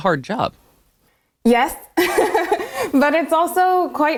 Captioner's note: laughs